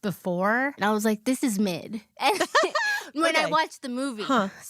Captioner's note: laughs